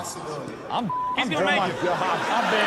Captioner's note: beep